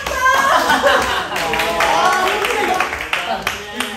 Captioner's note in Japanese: 拍手